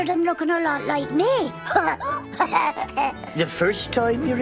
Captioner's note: chuckling